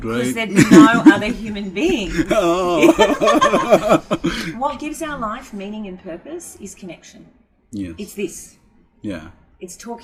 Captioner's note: both laugh